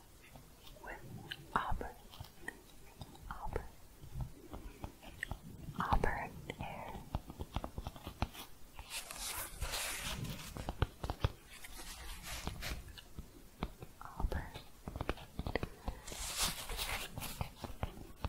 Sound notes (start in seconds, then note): 0.0 shuffling; 8.7 shuffling and tapping